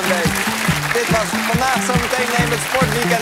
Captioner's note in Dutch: applaus